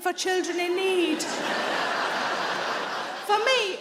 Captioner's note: audience laughs